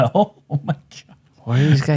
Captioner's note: laughing